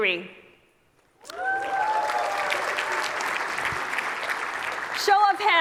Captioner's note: audience clapping; audience cheering